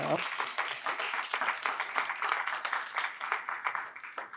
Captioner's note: audience applauds